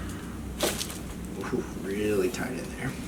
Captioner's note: back cracking